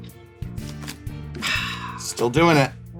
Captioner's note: sighs